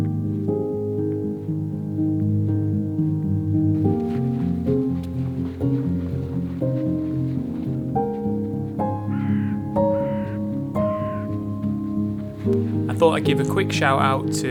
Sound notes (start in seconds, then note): 0.1 soft piano music; 8.5 bird cawing